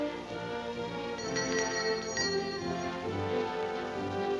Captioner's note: bell dinging